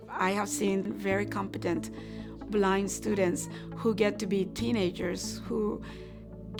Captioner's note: female voice